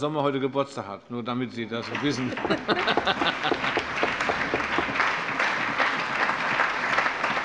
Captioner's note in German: Heiterkeit - Allgemeiner Beifall